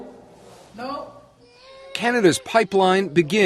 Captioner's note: woman's voice behind door